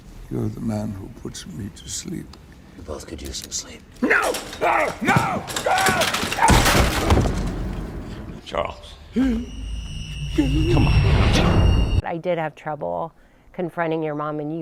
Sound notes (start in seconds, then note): 6.5 wheelchair crashing; 9.8 gasps